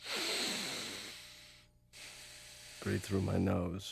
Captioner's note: inhaling; exhaling